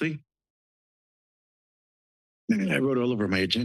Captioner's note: pause